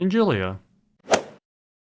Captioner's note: swoosh